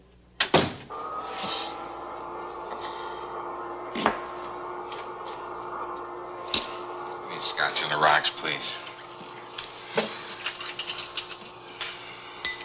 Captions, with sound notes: (door closing) (vacuum whirring) - Give me a scotch on the rocks please.